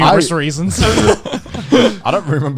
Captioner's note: laughing